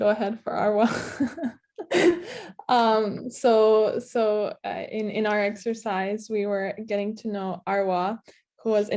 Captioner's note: laughs